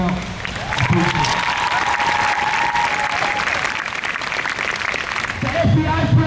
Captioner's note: crowd cheers